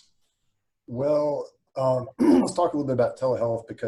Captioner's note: clears throat